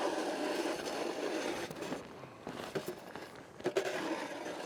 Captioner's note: snow shovel grinding